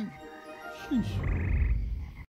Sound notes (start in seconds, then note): 0.0 other frogs croaking